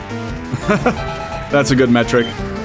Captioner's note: laughs